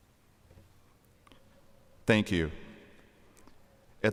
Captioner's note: none